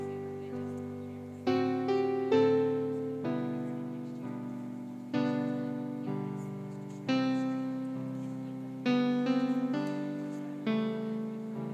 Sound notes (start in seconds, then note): none